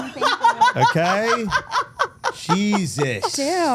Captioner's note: Steph laughing